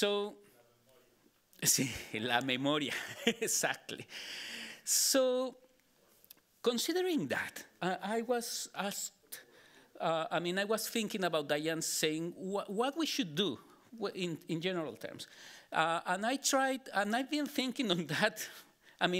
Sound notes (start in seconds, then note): 0.6 member of audience speaking Spanish; 1.6 speaking Spanish